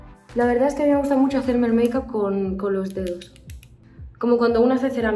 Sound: speaking Spanish

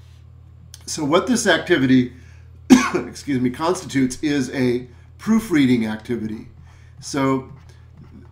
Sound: coughs

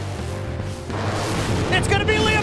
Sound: car engines revving

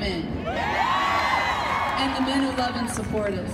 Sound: audience cheering

